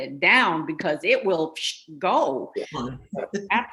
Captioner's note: imitates wind whooshing